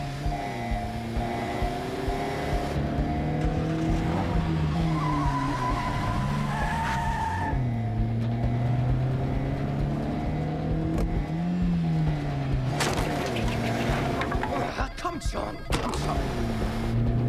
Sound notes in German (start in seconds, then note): 2.5 heulender motor